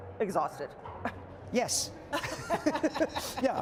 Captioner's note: laughter